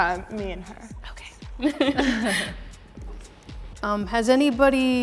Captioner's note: chuckles